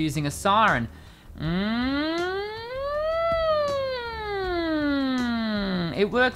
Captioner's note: siren sound